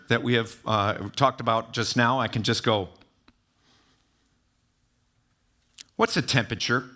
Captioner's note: taps